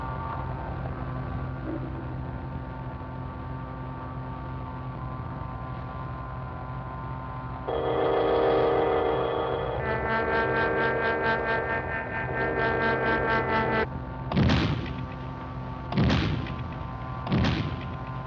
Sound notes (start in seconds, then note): 8.0 machine hums; 14.5 beam thuds